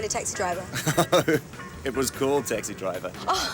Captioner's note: laughs; laughs